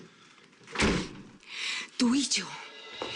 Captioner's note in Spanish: Sonido al cerrar la puerta